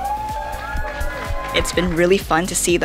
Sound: people celebrating

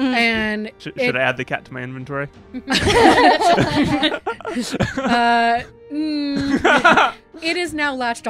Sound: laughter

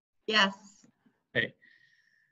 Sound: laughs

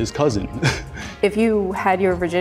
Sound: chuckling

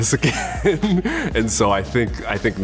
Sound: chuckles

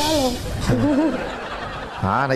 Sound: laughing

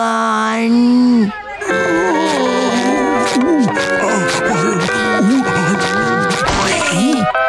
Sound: groaning

